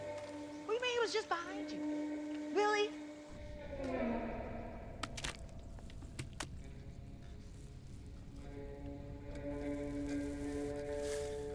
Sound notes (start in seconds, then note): 5.8 tapping; 7.9 intriguing music